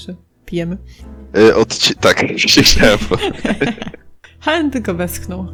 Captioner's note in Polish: śmiech